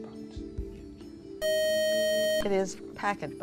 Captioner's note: buzzer